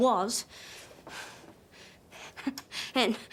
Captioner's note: breathes heavily